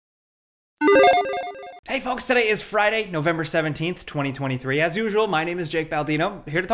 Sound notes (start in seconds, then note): 0.8 tone beeps